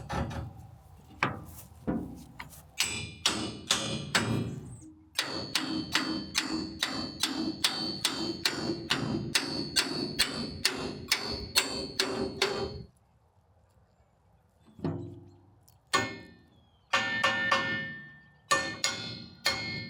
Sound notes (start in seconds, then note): 3.3 metal pounding